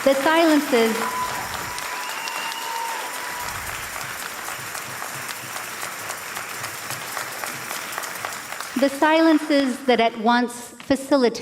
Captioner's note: applause and cheers